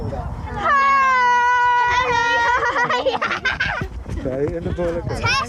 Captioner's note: excited noise